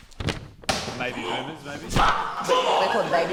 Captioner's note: grunts